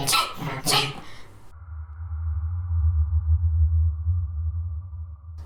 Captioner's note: hummm, then silence